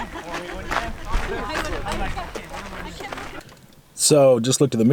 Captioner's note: people chattering